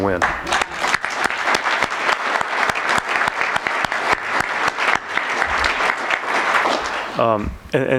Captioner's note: applause